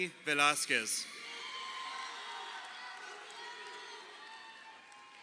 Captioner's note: crowd cheering